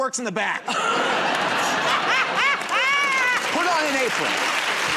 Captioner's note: laughter and applause